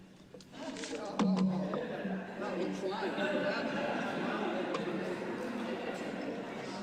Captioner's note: laughter